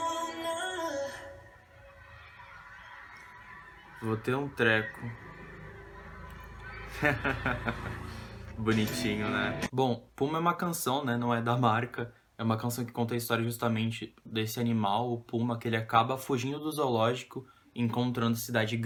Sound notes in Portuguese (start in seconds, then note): 11.1 risos